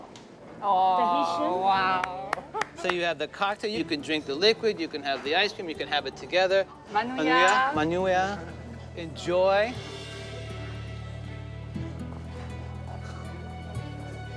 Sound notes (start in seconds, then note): 6.7 all speaking French